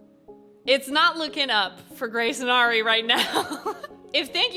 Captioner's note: chuckles